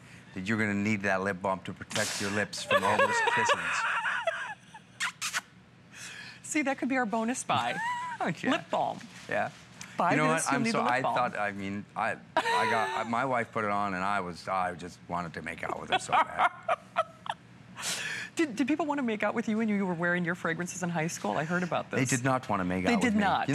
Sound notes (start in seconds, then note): 15.6 laughter